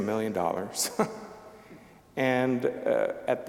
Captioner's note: chuckling